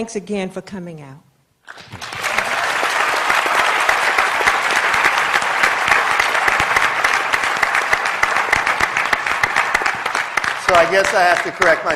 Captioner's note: applause